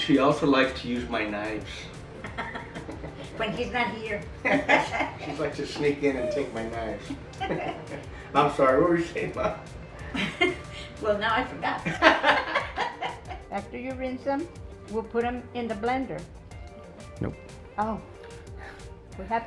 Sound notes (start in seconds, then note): 4.4 both laughing; 9.9 laughs; 11.8 both laughing